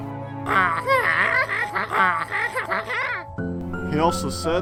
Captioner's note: More Wacky Walter noises